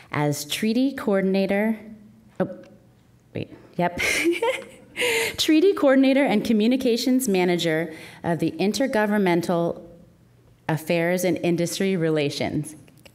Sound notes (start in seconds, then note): 4.3 laughing